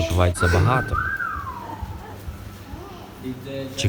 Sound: whistle

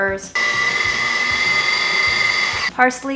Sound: blending sounds

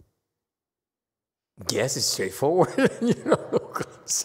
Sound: laughs and clears throat

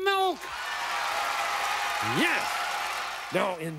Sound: applause

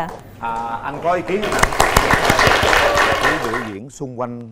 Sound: clapping

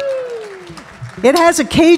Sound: audience clapping

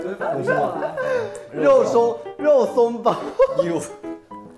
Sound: attempts to correct him but starts laughing again

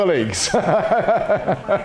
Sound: laughter

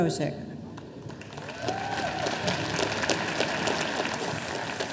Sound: audience applauding

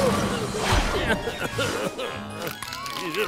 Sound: coughing

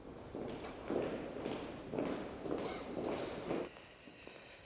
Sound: footfalls thud loudly

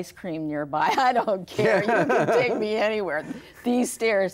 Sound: laughs

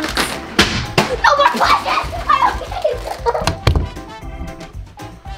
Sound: shouts loudly

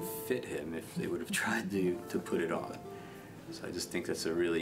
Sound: laughs

